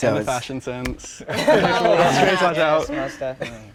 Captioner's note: all laugh